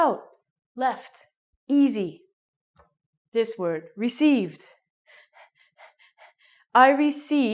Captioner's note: makes panting sound